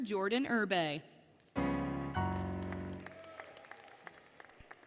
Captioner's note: applause, Cheering, Music; applause, Cheering